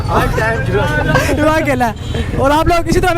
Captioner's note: ha ha ha